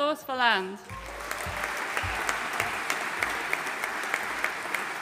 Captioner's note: audience applauding